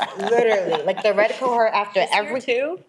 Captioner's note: people laughing